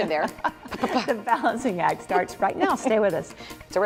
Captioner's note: laughter